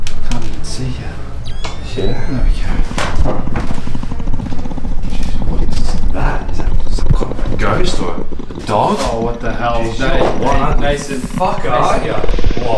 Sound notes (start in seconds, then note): 4.3 growls intensifies